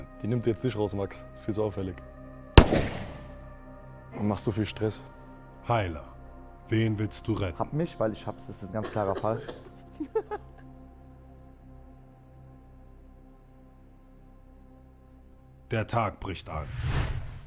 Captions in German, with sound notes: Die nimmt dich jetzt nicht raus, Max. Viel zu auffällig. (Schuss) Du machst du so viel Stress? Heiler, wen willst du retten? Hab mich, weil ich hab's. Das ist ein ganz klarer Fall. Der Tag bricht an.